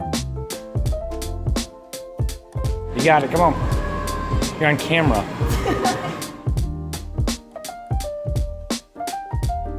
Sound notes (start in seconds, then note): 3.9 background music playing; 5.4 laughing